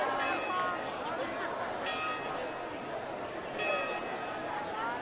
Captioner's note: chatter